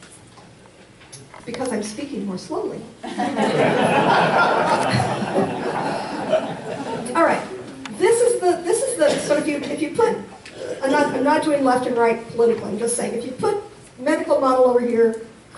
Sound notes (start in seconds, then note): 3.0 audience laughs